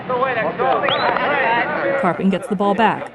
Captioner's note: background laughter